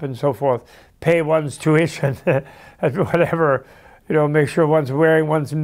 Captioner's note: laughs